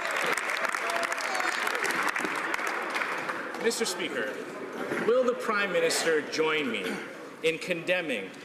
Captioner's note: some Applause